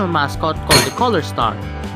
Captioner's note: bonk